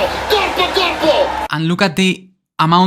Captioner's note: Charles Leclerc in Italian